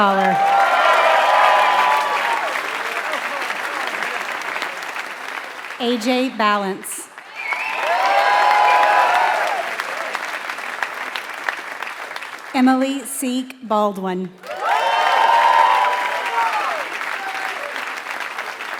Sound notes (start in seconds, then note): 0.3 applause; 6.8 applause; 14.4 applause